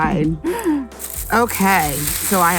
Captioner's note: laughs